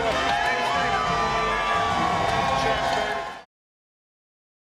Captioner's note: music drowns out speaker; audience cheering